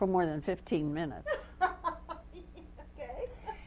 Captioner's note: laughter